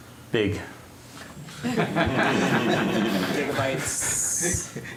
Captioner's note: laughter